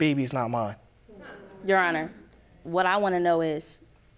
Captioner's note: audience groaning